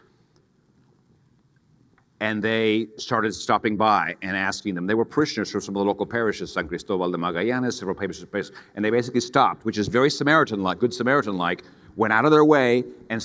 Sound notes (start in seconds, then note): 6.8 speaks in foreign language